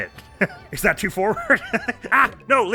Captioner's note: giggles